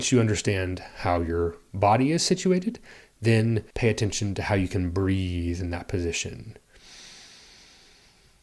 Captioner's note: breathes